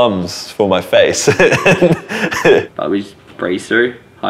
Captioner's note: laughing